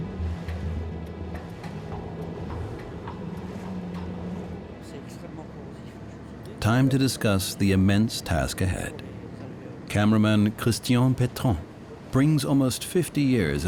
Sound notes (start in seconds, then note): 4.9 speaking French